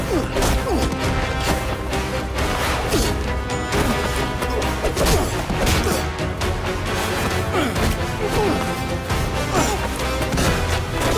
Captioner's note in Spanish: Ruidos de la lucha